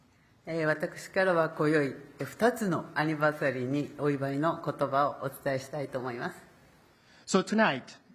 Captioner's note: speaking Japanese